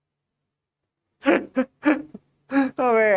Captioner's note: laughing